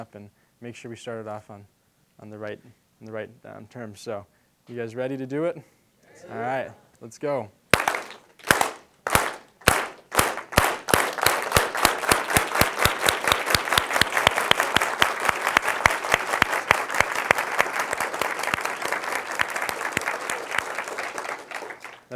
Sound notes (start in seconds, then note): 7.7 clapping, increasing in speed; 14.2 applause